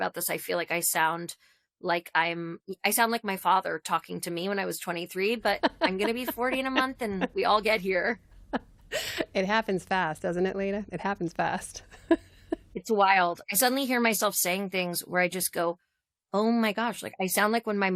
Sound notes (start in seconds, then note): 8.2 laughter